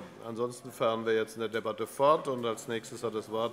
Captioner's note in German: none